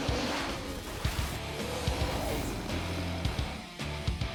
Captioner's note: roar